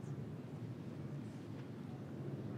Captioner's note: none